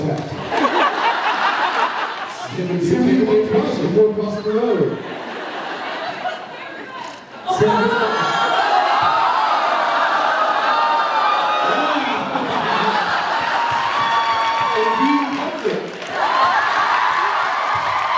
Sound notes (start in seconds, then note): 0.5 laughs; 5.4 laughs; 11.7 laughs; 13.6 thumps mic; 15.0 cheers, applauds; 16.0 thumps mic